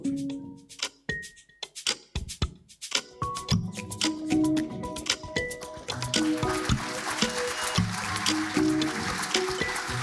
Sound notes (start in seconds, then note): 0.3 bright music; 5.9 audience applauding